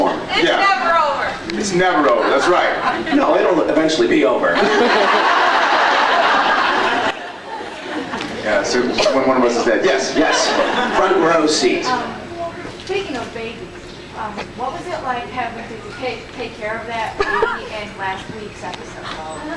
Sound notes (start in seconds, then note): 2.0 scattered laughs; 4.6 laughs